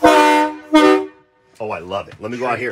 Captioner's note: train horn honks twice